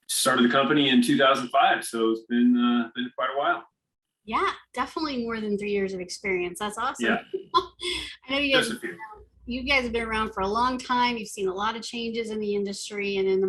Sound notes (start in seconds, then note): 7.0 chuckles